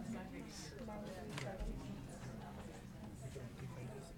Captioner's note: people chattering